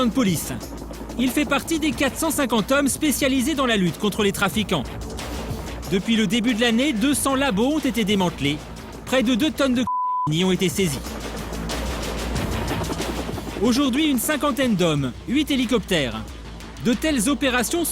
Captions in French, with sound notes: Carlos est lieutenant de police, fait partie d'une force antidrogue forte de 450 personnes déployés contre les trafiquants. Depuis le début de l'année 200 laboratoires ont été détruits, et près de deux tonnes de [bip] saisies. Cette opération impliquait 50 hommes et huit hélicoptères.